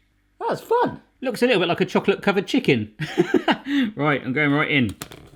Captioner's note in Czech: smích